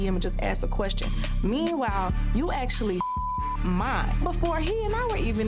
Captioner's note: beep